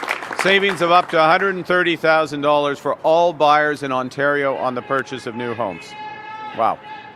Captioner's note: applause